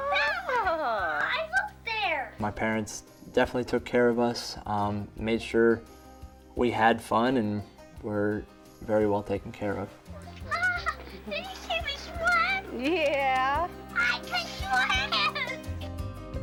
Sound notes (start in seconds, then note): 10.1 laughs